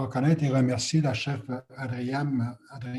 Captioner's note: foreign language